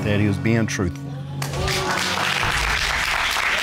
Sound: applause

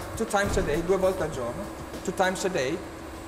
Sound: speaking Italian

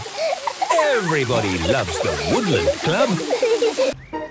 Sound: laughter

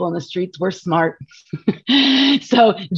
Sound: laughs

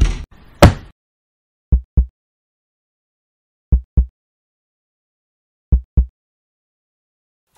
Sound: heartbeat

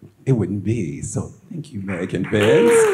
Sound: audience applauds

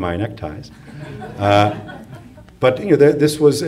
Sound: audience laughs

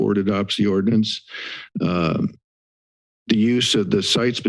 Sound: inhales

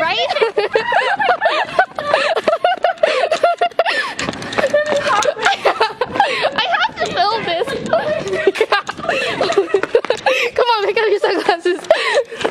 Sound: laughter; more laughter

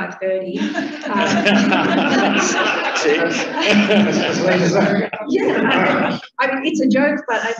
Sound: laughter

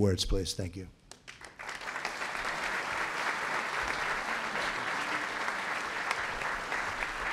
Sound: applause

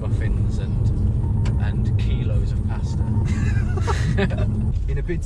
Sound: chuckling

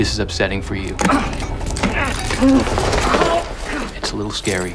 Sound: grunting

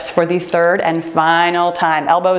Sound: timer beeps

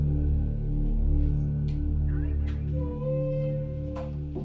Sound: none

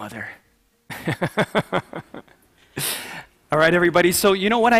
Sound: laughs

